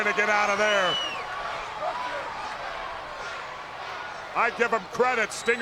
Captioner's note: crowd yelling